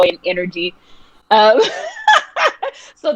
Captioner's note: laughing